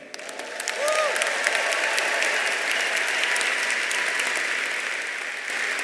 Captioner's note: audience applauding; audience cheering